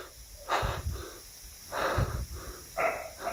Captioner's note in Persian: صدای نفس‌نفس زدن